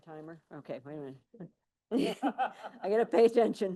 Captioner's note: laughing